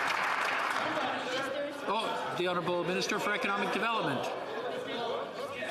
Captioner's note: some Applause